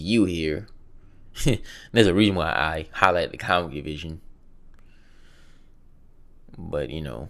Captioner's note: chuckles